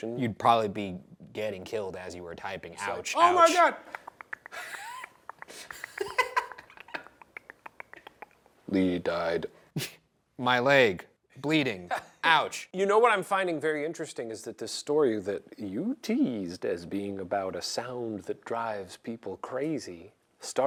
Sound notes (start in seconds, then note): 3.8 Shane imitating text clicking; 4.3 Ryan laughs; 9.8 Ryan chuckles